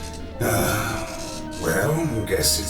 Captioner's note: sigh